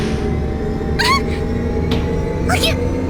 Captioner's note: panicked cry